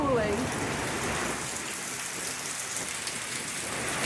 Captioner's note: heavy rain